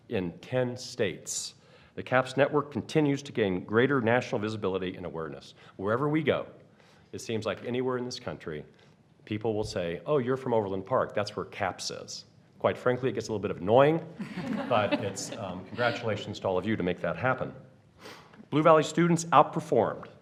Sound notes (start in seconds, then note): 14.2 laughter